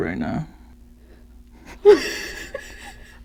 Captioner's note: unsteady breaths; laughs